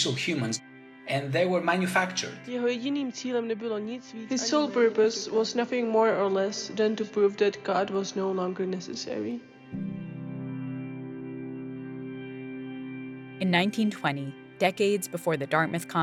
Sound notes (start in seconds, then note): 3.4 through translator, reading